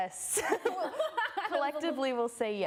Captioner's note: laughter